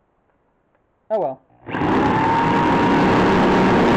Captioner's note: drilling